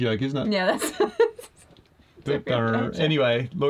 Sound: laughs

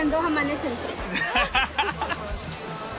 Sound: laugh

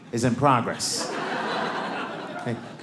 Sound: audience laughing

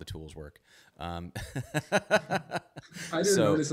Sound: both laugh

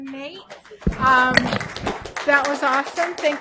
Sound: applause

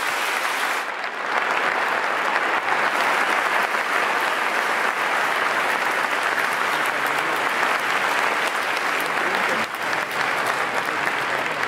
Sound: applause

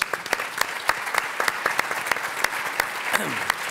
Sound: applause

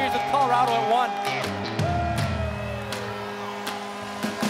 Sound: horn buzzing

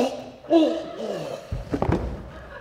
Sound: choking

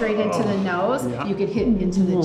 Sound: Tony groans

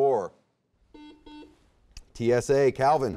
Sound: buzzer beeping

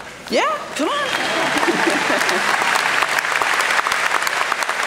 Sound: applause

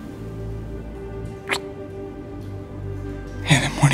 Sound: kiss

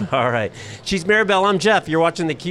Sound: chuckles

